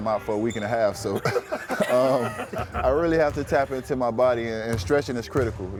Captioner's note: laugh